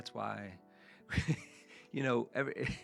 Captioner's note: laughs